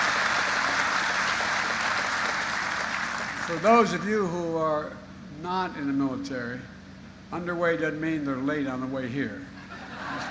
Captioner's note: applause; applause